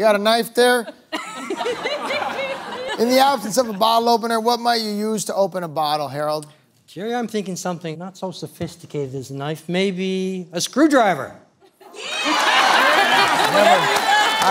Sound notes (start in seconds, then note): 3.8 laughing; 14.2 cheers